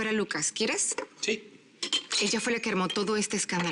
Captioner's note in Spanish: Sonido al poner hielo